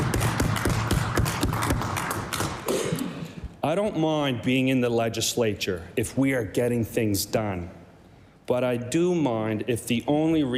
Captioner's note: applause